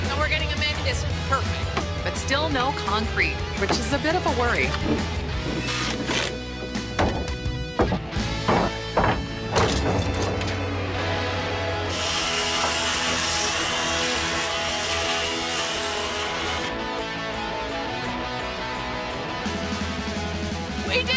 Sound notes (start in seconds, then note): 7.3 thudding; 10.1 sawing